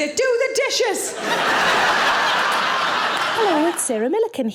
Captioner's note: audience laughing